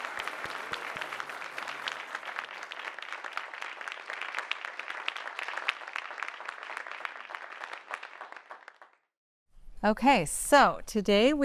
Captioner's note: applause